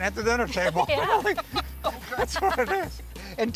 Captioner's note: laughs